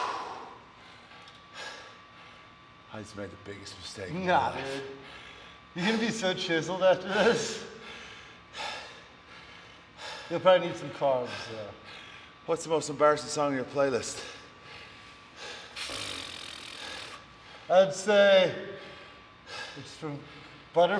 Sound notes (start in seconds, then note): 7.0 laugh